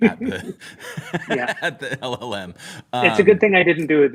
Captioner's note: laughter